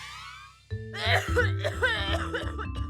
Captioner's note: coughing